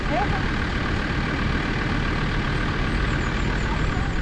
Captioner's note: vehicle rumbling